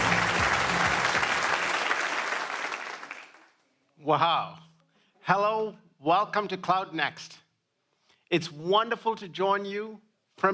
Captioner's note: applause